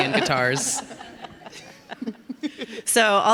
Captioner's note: all laughing